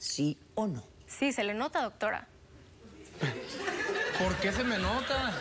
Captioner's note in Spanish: risas del público